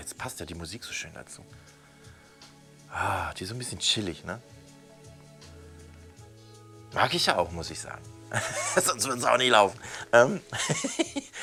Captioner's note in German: lacht